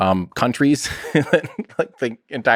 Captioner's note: Tim laughs